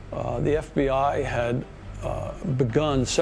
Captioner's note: none